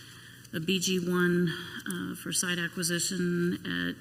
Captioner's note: none